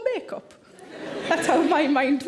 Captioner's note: audience laughing